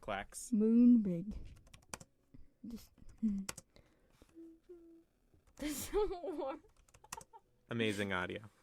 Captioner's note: keyboard Noises